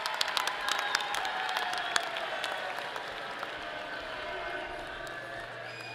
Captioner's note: people shouting distantly